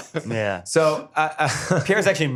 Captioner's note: laughs